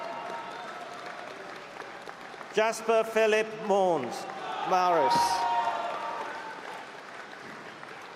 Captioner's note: applause; cheering